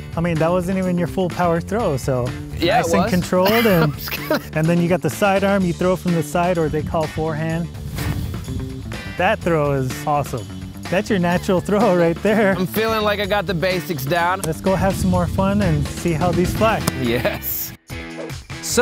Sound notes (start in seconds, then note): 2.6 laughing; 8.0 clothes rustling; 16.8 hands smacking